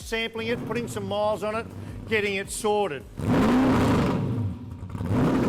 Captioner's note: engine roars